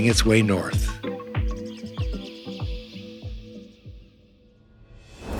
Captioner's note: birds chirping